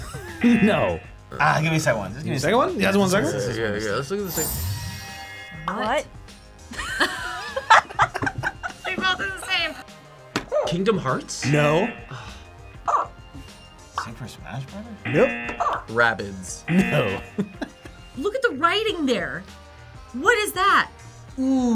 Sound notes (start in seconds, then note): 0.0 laughs; 0.4 buzzer; 6.7 both laugh; 11.5 buzzer barks; 11.6 buzzer; 12.2 sighs; 16.7 buzzer; 16.7 buzzer barks; 16.7 laughs